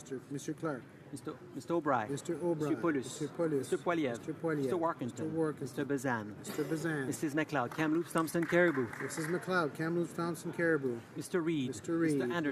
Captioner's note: some Applause